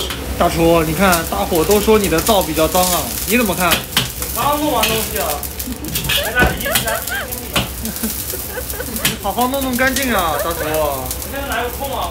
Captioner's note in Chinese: 喝彩